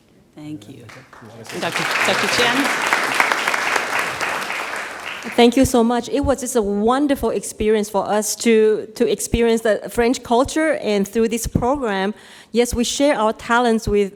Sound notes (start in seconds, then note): 0.8 audience claps